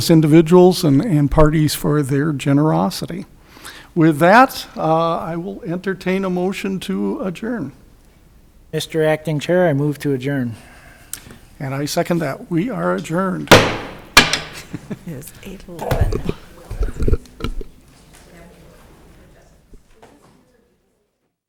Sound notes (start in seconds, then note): 13.4 gavel bangs; 14.5 laughs